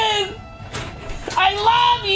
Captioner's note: door opens